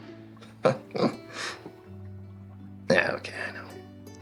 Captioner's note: Oliver laughing